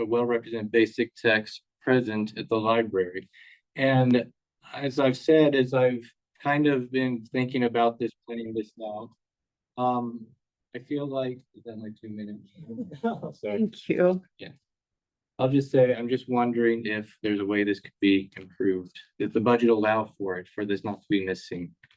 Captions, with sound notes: a well-represented basic text present at the library. And as I've said, as I've kind of been thinking about this playing this now, I feel like... Is that my two minutes? (board members laugh) (laughs) Oh, sorry. - Thank you. - Yeah. I'll just say, I'm just wondering if there's a way this could be improved, if the budget allow for it, for this not to be missing.